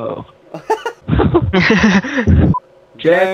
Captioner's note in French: Rire